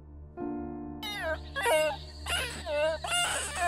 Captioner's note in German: Er quietscht laut